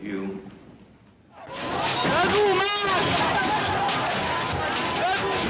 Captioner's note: shouting